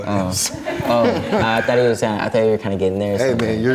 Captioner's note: laughs